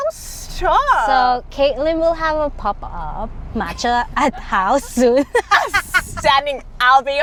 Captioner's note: laughs